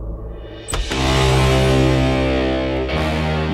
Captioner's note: Door opens